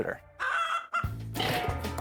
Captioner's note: chicken clucking; metal clank